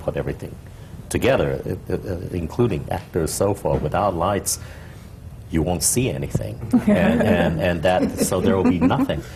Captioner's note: laughter